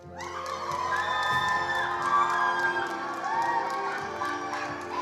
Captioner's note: attendees applauding